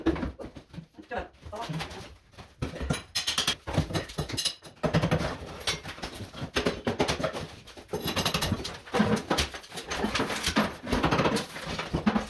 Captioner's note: hammering